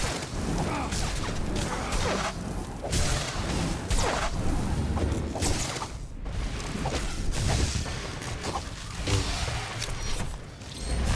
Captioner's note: gunshots